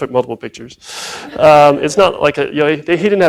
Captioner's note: laughs